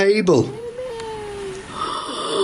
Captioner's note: disembodied Voice; gasps